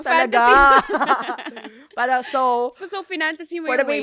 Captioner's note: laughs